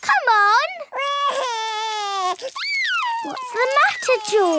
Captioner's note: crying